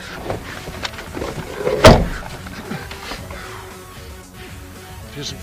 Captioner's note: gasping; rear door unlocks; gasping; door slams